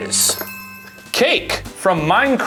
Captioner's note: bells chime